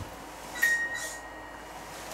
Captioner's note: music box reacts